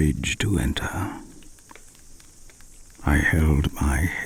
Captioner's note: fire crackling and night insect buzzing